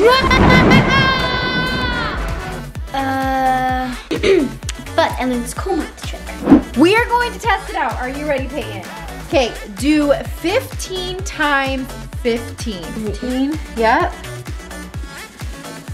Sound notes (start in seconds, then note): 0.0 maniacal laughter; 4.0 clears throat